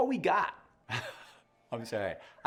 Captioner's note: laughs